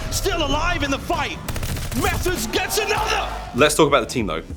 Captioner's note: cheering